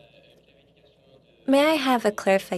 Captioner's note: speaking French